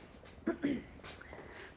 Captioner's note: Rosemary clearing throat